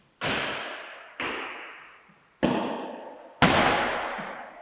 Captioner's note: ball tapping